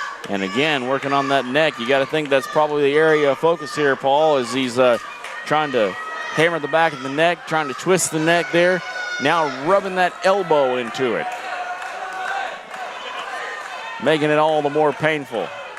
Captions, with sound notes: And again, working on that neck, you gotta think that's probably the area of focus here, Paul as he's trying to hammer the back of the neck, trying to twist the neck there. Now, rubbing that elbow into it. (crowd cheering and shouting) Making it all the more painful